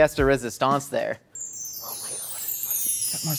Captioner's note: bells chime mystically